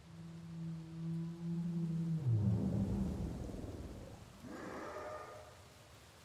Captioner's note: creature vocalizing in the distance